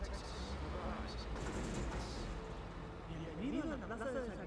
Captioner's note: truck clattering